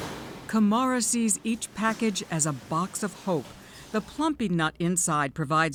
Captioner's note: voice-over